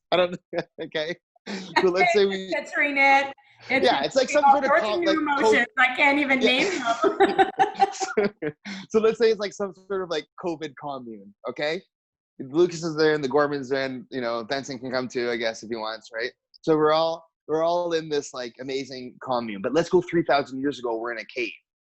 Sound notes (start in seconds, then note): 9.5 giggles